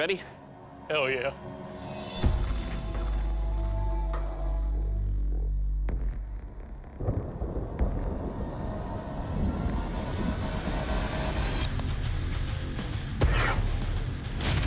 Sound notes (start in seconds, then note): 6.0 thunder rolls; 11.3 rock music